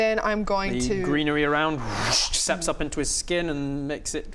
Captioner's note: whoosh